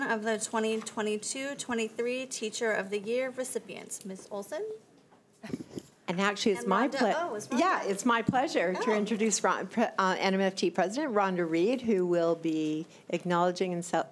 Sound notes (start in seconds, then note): 6.1 both chattering